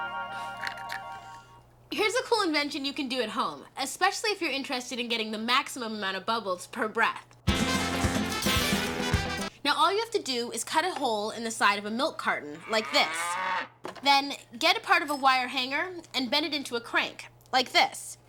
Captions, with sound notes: HERE'S A COOL INVENTION YOU CAN DO AT HOME, ESPECIALLY IF YOU'RE INTERESTED IN GETTING THE MAXIMUM AMOUNT OF BUBBLES PER BREATH. NOW ALL YOU HAVE TO DO IS CUT A HOLE IN THE SIDE OF A MILK CARTON, LIKE THIS. [ COW MOOS ] THEN GET A PART OF A WIRE HANGER AND BEND IT INTO A CRANK, LIKE THIS.